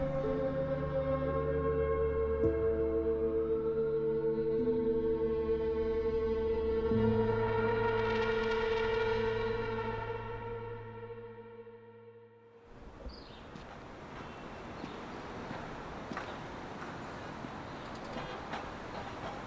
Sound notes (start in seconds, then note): 0.2 soft tense music continues; 12.9 birds chirping; 12.9 cars whooshing